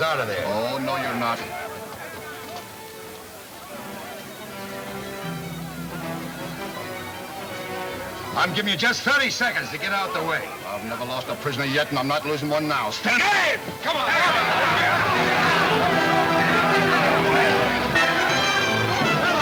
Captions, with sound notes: (exciting orchestra music) I'm give you just 30 seconds to get out of the way. I've never lost a prisoner yet and I'm not losin' one now. - Stand back! - Hey! (men yelling simultaneously) (dramatic orchestra music)